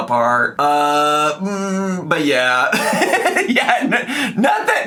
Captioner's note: giggles